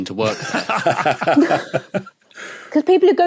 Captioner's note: others laughing